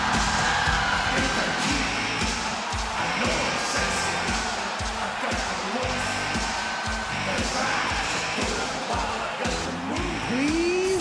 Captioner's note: crowd cheers